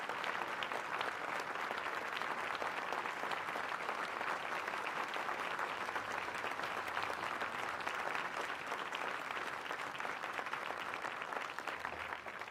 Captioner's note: applause